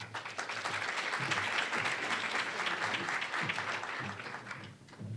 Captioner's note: applause